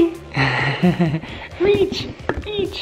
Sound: laughs

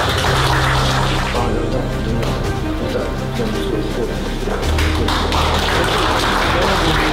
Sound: applause

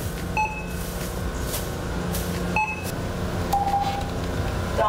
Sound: electronic pinging

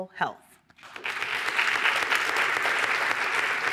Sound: applause

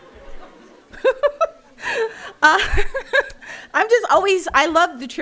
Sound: laughing

